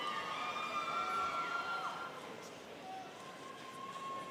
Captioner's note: students cheering